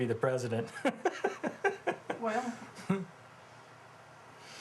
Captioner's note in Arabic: كلاهما يضحك